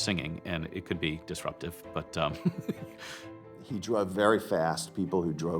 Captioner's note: laughter